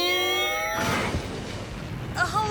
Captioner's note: distant explosion